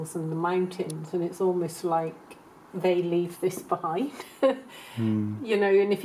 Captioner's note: laughs